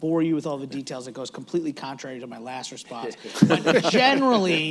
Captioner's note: laughter